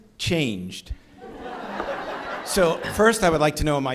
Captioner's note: audience laughing